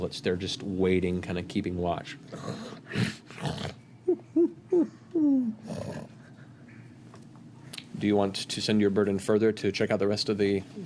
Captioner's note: gnoll murmurs